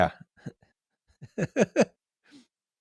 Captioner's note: chuckles